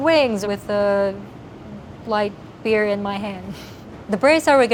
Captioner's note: laughs